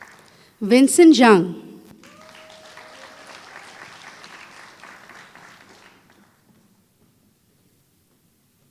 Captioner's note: applause